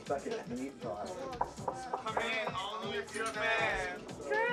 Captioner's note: dance music; knock at door